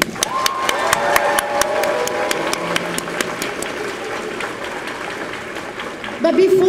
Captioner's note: applause